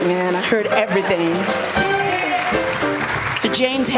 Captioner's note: applause